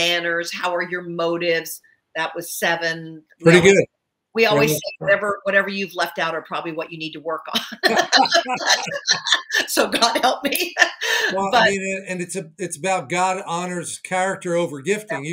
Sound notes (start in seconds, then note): 7.7 both laughing